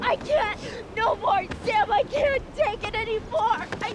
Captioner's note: sobbing